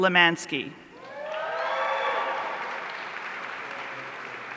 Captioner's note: audience cheering